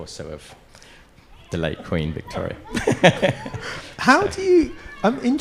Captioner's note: laughs